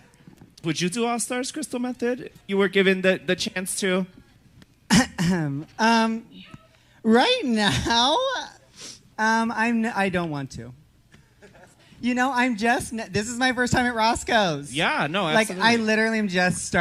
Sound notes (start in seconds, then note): 4.9 clears her throat